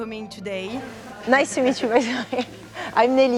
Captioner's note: laughs